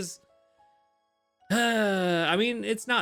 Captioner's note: sighs